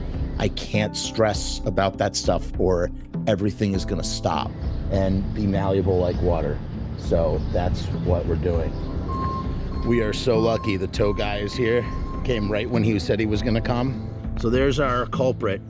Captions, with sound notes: I can't stress about that stuff, or everything is going to stop and- -be malleable like water. So, that's what we're doing. [Tow truck beeping] We are so lucky. The tow guy is here, came right when he said he was going to come. So there's our culprit.